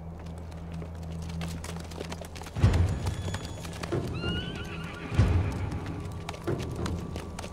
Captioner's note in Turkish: Adım ve kişneme sesleri